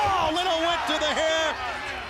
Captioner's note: crowd cheering